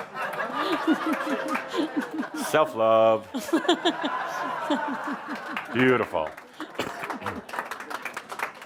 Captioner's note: lots of laughter, then applause as Adamus gives her a metal sign